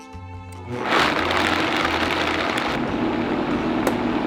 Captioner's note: blender running